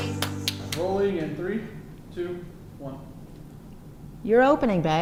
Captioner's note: voiceover